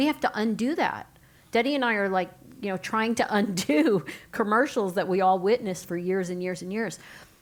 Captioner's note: laugh